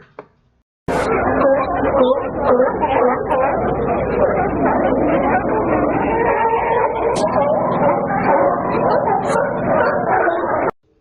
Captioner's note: sea lions barking